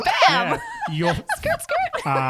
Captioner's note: laughs